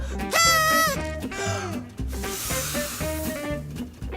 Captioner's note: horn blowing